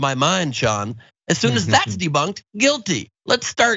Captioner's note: laugh